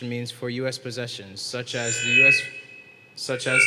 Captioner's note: mic feedback